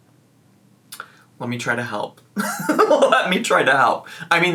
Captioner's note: laughs